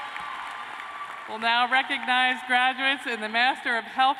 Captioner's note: cheers and applause